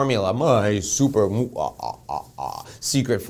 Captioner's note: doing an evil laugh